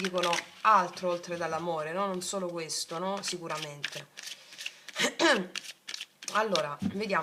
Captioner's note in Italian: schiarire la voce